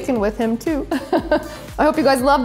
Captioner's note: chuckles